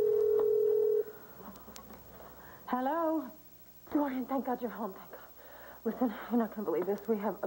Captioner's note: telephone rings